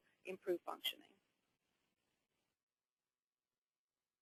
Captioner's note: silence